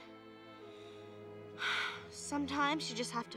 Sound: sighs

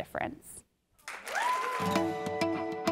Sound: applause

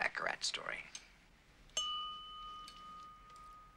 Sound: clink

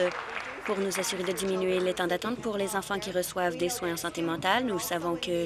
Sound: applause

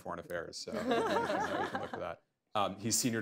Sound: laughter

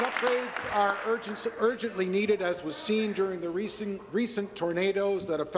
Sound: applause

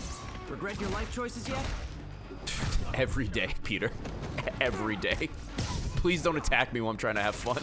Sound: laughs

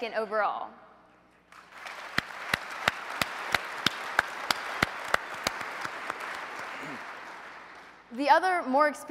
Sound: applause

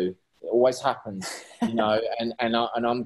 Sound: laughing

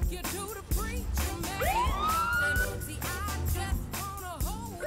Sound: police siren blaring

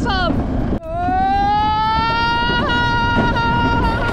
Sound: screaming

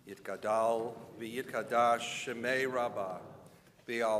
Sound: speaking in Hebrew

